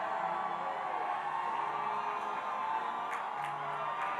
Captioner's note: audience cheering